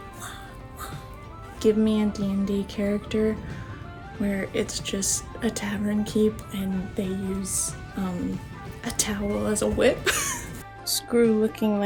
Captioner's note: laughter